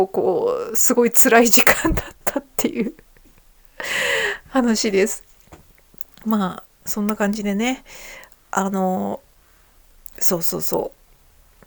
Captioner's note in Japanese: 笑い